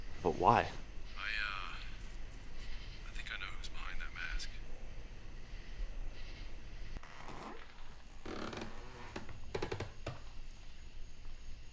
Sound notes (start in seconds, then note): 6.9 door creaks